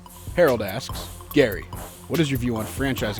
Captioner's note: voiceover